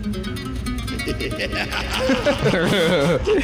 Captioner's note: maniacal laughter